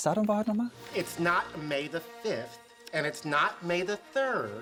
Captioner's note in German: Er spricht auf Englisch